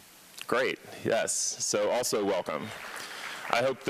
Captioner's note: applause